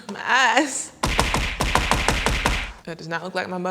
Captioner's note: punching noise